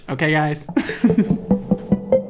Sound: laughs

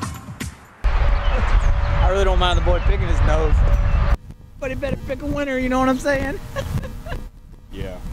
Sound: laughs

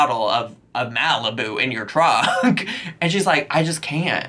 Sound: laughs

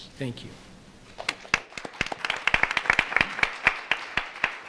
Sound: audience applauds

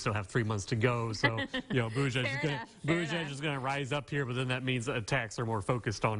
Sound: chuckling

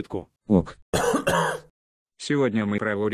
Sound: cough

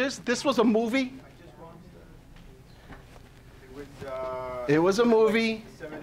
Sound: audience talking

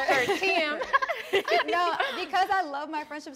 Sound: all laughing

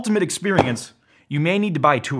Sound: thud

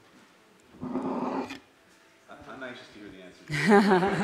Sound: laughter

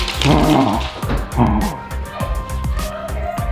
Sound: growling

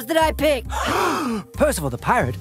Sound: gasp!

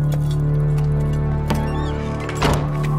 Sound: door closes

